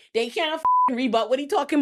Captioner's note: beep